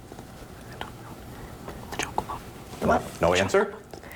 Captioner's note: students whispering